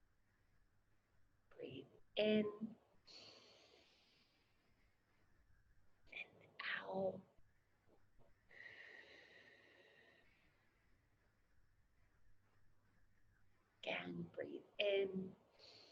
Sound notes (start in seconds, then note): 3.1 inhales heavily; 8.9 exhales heavily; 15.6 inhales heavily